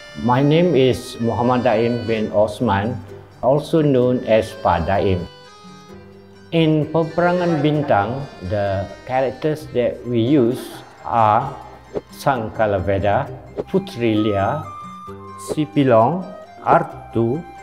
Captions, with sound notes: - My name is Muhammad Dain bin Othman, also known as Pak Dain. In Peperangan Bintang, the characters that we use are (speaking foreign language)